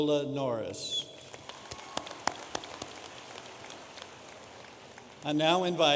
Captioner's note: audience applauding